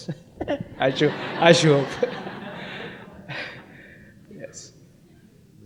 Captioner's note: audience laughs